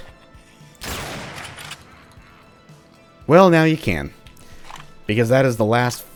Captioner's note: bam